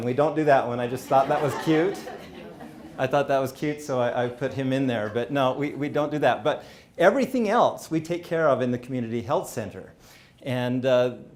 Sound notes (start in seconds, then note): 0.8 audience laughing